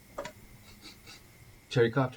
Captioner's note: sniffing